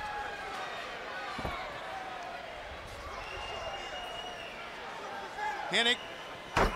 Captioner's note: crowd cheering